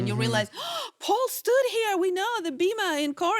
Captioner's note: gasps